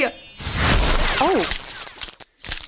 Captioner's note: explosion booming